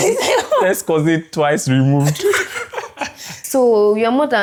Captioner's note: laughs